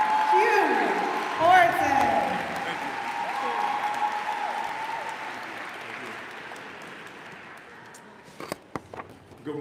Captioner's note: applause